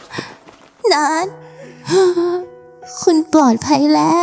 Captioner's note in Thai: เสียงหายใจอ้าปากค้าง